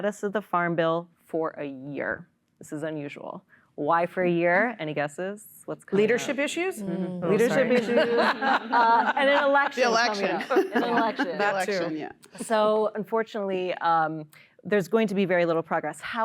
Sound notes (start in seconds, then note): 7.5 laughter